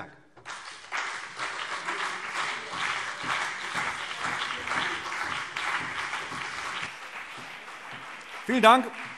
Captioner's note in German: Beifall CDU und BÜNDNIS 90/DIE GRÜNEN